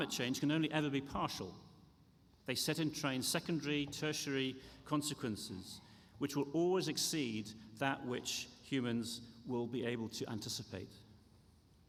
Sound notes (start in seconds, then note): none